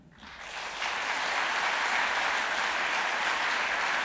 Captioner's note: audience applauding